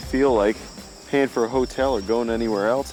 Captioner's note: none